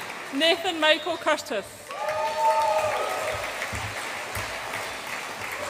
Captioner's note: audience applauds and cheers